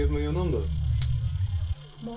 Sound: clicks

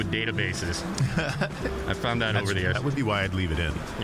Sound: laughing

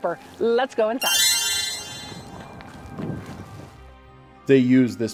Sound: magical tinkling

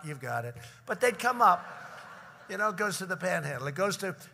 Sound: laughter

